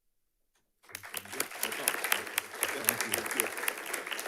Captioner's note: audience clapping